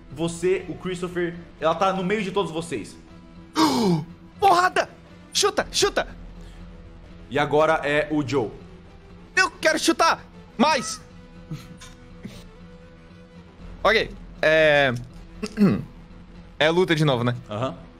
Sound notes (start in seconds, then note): 3.5 gasps